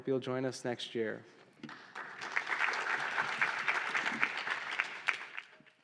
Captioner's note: applause